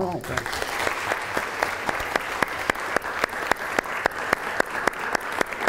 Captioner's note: audience applause